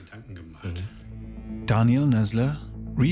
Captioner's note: eerie noises